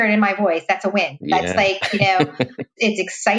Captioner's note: laughs